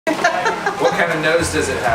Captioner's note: laughs